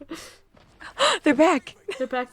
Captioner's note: gasp